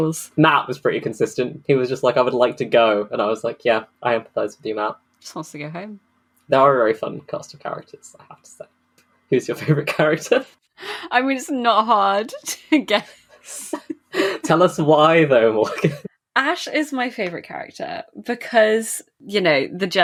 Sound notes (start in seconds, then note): 9.6 laughing; 15.5 laughing